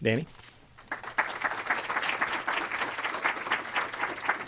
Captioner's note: applause